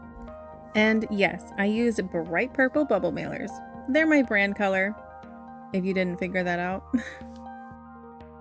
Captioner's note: laugh